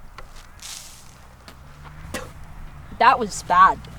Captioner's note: sand rustling